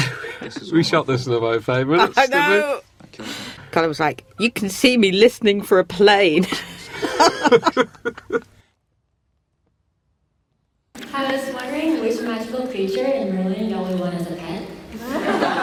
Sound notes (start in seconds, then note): 2.0 laughs; 6.4 laughter